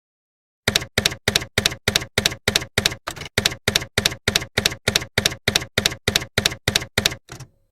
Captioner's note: typewriter keys clacking